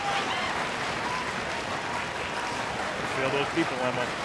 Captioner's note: crowd cheering